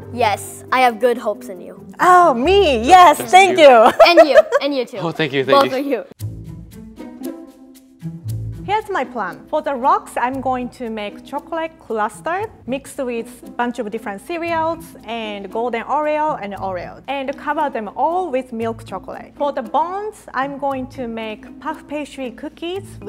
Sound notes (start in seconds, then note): 3.5 laughs; 6.2 quirky string music